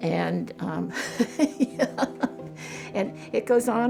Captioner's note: laughs